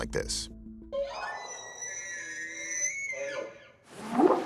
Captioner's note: squealing; whooping sound